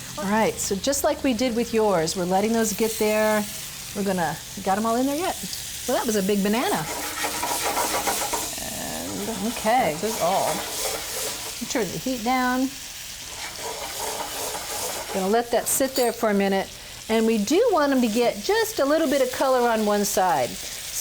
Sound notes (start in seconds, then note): 6.6 pan scraping